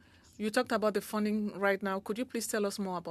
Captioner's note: speaking French